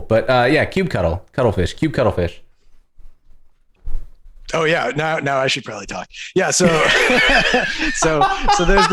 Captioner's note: laughter